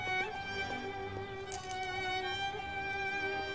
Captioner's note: money rattle sound